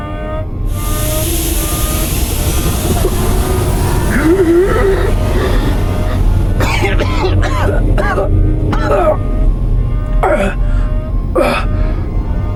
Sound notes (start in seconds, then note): 0.6 alarm blaring; 0.6 air hissing; 4.0 Hawk gasps; 6.8 Hawk coughs